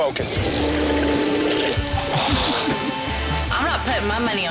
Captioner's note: man grunting